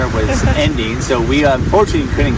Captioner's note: chuckles